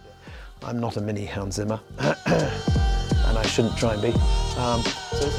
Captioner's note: coughs